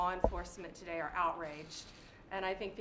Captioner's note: none